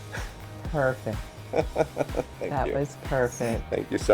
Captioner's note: laughs